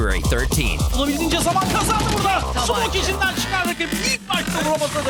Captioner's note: foreign language